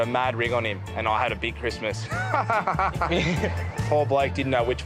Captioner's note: laughs